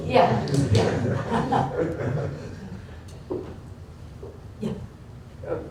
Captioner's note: laughter